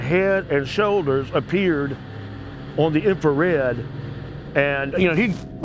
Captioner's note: figure hissing softly